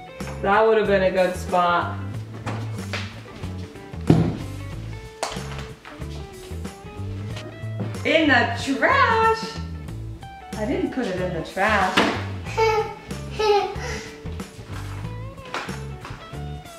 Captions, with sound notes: - Hey, that would of been a good spot. In the trash? I didn't put it in the trash. - (giggles)